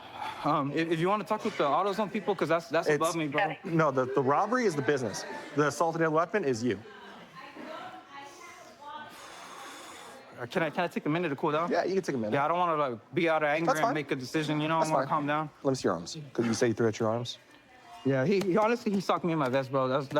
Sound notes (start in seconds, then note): 9.0 exhales